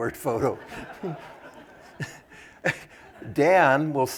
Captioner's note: laughter